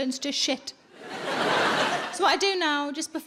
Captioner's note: audience laughing